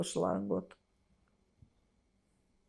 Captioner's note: pauses 6 seconds